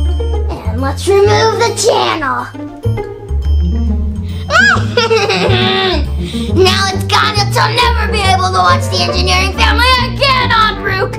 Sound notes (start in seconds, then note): 4.5 laughs evilly